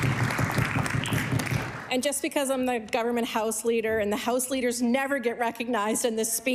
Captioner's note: applause